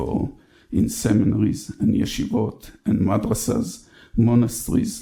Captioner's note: speaks in foreign language